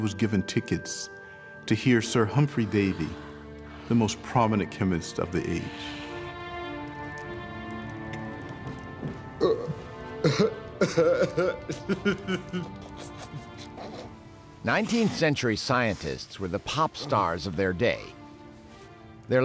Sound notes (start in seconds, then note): 9.2 <i> groans</i>; 10.2 <i> laughing</i>